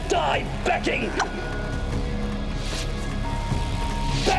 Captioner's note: Ghia chokes